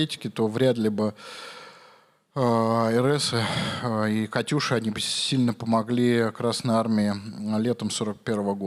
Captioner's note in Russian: вздыхает